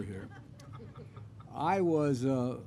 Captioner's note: laughter